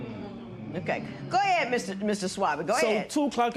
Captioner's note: spectators murmur